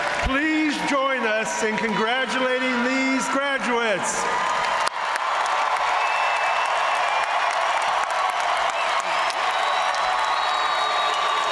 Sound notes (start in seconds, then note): 4.0 audience cheering and applauding